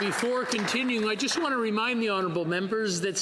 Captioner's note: some Applause